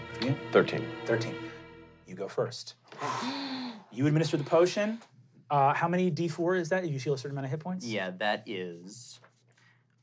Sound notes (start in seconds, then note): 2.9 sighs in relief